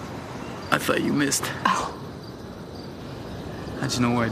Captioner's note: laughs